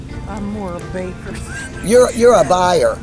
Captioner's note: laughing